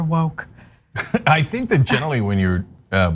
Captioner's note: laugh